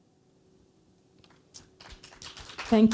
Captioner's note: applause